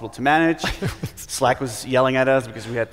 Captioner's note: laughs